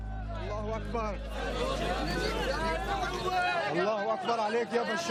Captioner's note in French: Audio parlé en arabe